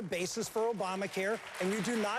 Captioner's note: applause